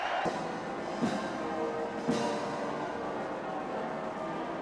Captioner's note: crowd cheering